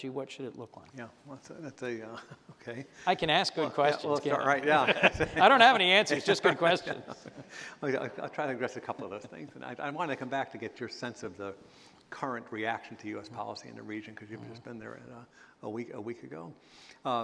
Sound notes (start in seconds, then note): 3.4 chuckle; 4.6 laughter; 9.6 laughter